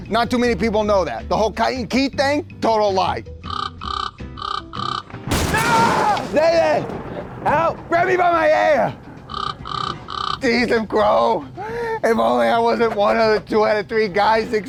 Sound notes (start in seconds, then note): 3.4 bird caws; 5.3 lightning thunders loudly; 9.2 bird caws